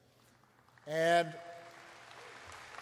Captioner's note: applause